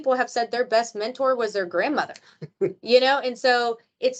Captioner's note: chuckles